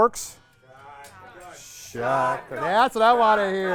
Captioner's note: cheering